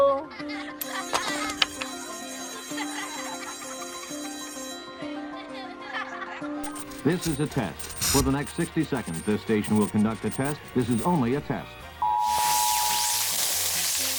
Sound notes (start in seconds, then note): 0.2 children laughing; 0.8 bouncy music; 0.8 school bell trills; 2.3 children laughing; 12.1 siren blares